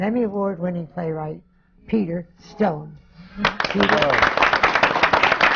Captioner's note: applause